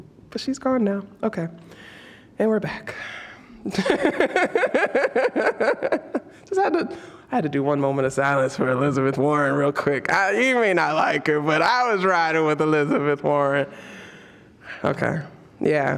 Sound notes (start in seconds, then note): 3.6 laughs